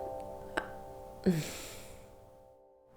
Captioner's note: sigh